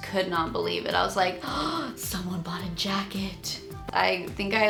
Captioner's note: gasping